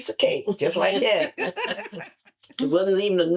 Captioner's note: laughter